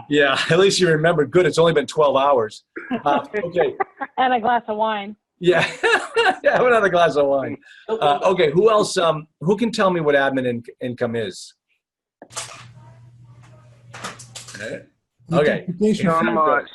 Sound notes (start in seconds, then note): 5.5 laughs